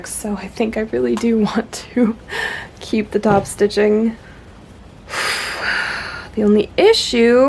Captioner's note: deep inhale, forceful exhale